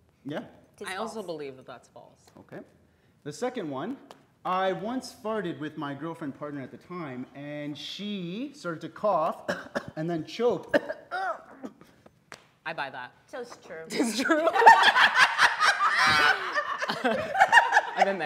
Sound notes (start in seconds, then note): 9.4 coughs; 11.0 imitates person choking; 13.9 group laughing